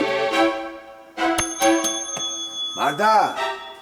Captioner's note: bell rings